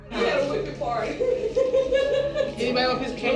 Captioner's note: laughter